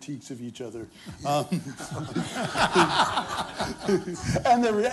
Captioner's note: laughter